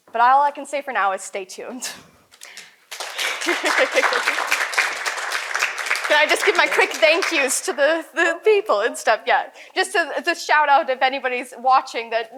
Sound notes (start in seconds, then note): 2.4 audience applauds; 3.2 chuckles